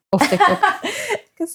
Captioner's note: laughing